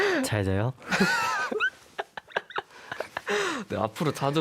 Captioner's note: laughs